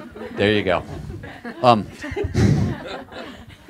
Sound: laughter

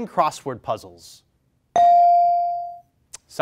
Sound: bell rings

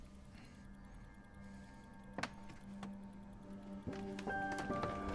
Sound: watch ticking

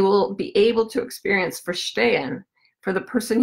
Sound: foreign language

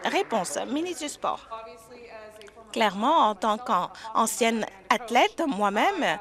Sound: applause

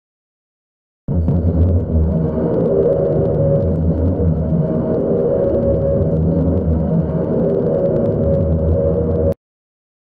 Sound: sound of radio signal interference

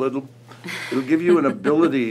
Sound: laughs

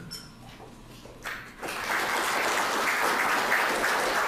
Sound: audience applause

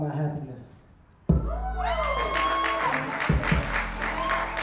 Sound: crowd cheers

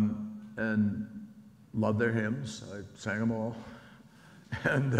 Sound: laughs

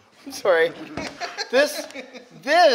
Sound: crew member laughs

